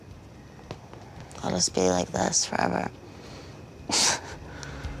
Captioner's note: laughs